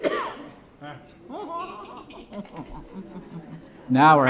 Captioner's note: coughing and laughing